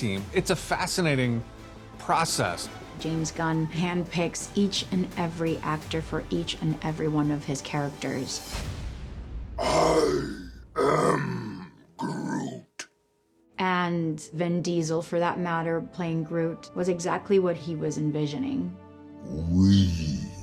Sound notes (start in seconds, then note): 9.6 growling